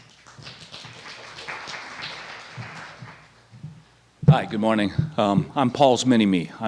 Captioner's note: applause